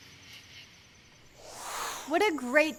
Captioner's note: air whooshing